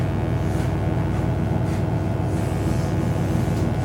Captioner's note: electric buzzing